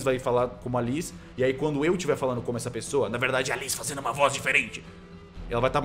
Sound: raspily speaking

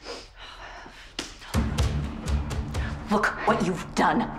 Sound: hand slaps; anxious music

